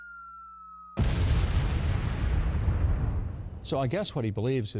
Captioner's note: bomb crashes